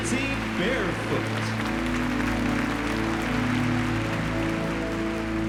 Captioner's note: cheering and applause